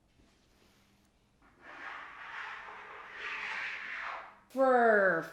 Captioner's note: scraping